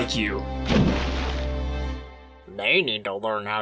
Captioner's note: splash!